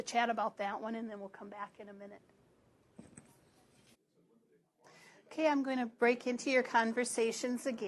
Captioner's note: pause